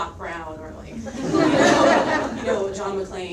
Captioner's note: audience laughs